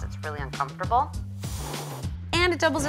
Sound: cat hisses

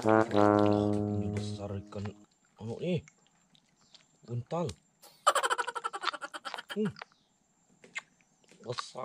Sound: laughs

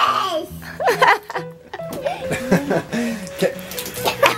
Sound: laughing

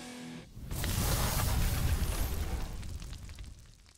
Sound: logo crackling

